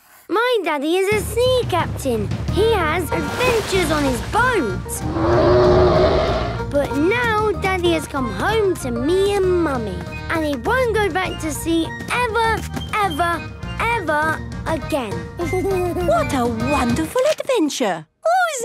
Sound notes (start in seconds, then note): 5.0 loud roar; 15.6 Danny giggles